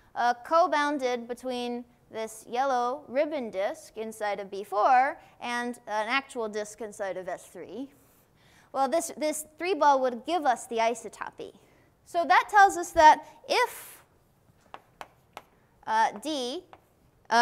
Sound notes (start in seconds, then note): none